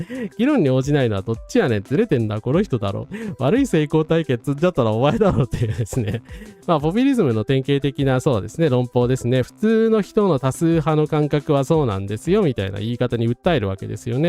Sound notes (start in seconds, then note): 5.2 laughs